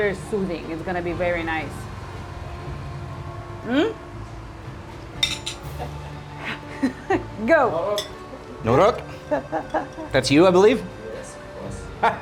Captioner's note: laughing